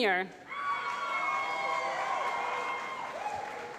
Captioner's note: applause